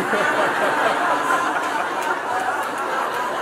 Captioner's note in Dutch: gelach